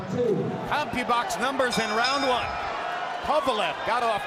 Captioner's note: bell dings